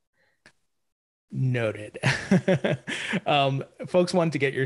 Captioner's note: laughs